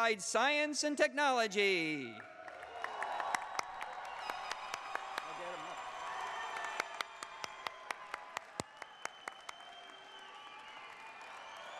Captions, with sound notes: APPLIED SCIENCE AND TECHNOLOGY! (CHEERS AND APPLAUSE)